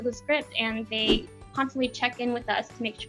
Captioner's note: air whooshing